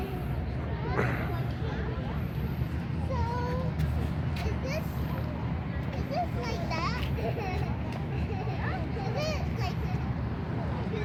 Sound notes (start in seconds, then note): 7.9 laughs